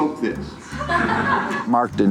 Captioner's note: laughter